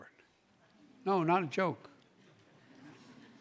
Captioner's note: laughter